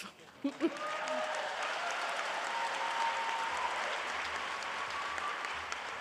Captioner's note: applause